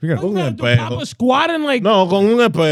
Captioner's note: speaking In Foreign Language